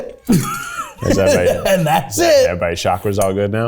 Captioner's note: laughing